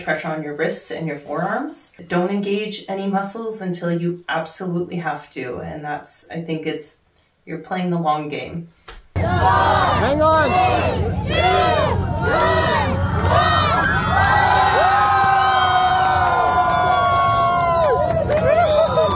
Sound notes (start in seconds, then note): 15.6 cheering